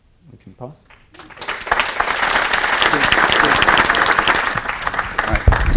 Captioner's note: applause